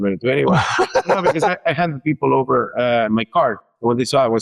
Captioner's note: laughs